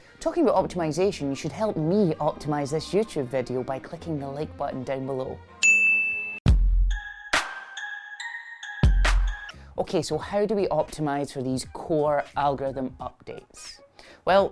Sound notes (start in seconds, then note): 5.6 ding; 6.5 thumping electronic music